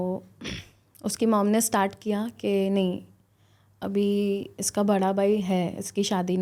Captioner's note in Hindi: गला साफ़ करने की आवाज़